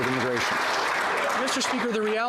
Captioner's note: some Applause